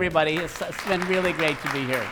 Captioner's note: audience applauding